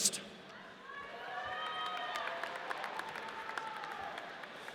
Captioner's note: audience cheers